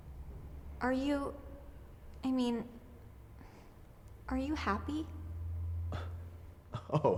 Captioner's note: sighs; scoffs